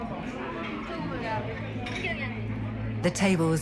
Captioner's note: chatter